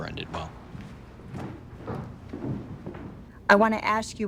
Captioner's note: footsteps thumping; students chattering